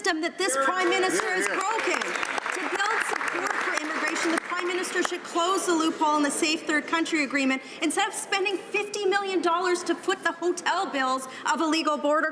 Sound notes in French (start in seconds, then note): 1.9 voix de l'interprte